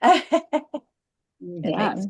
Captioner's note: laughs